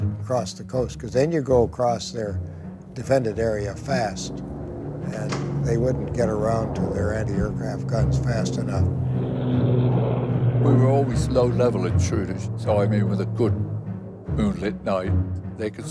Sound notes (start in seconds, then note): 9.5 jet engines roaring